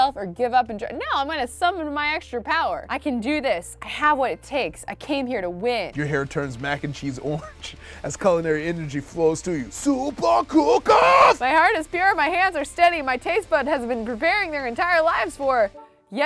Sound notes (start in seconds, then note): 7.7 laughs